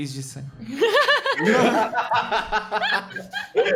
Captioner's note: laughs